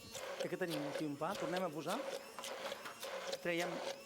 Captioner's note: non-english speech